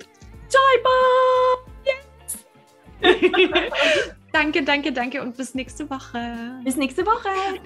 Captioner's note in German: lachen